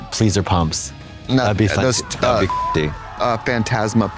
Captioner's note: beep